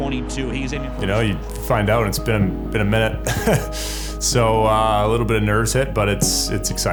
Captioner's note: laughs